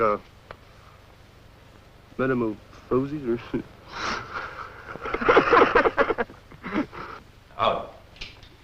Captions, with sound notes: Metamorphosis? [chuckles] [laughs]